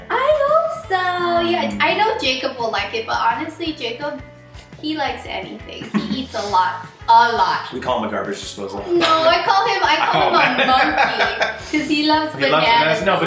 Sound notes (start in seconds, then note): 9.0 laughs